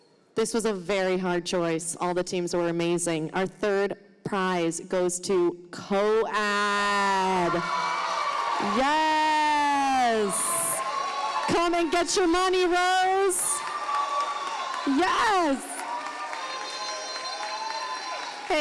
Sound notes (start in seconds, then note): 7.3 audience applauding; 15.4 audience applauding